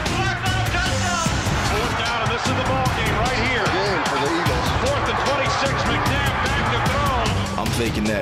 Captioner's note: crowd cheering